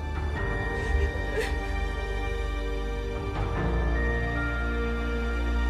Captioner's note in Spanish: Sollozos